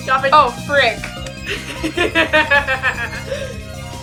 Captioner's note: laughs again